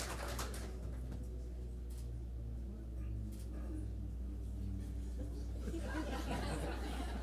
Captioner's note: extended applause; murmurs, shutter clicking; good-natured laughter